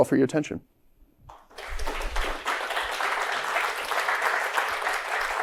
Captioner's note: applause